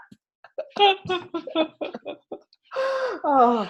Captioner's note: laughing